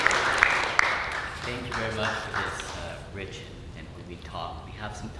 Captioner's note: murmurs